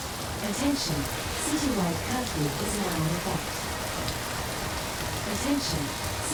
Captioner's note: drone